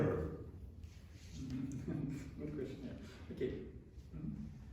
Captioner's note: chuckles